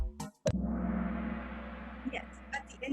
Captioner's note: gong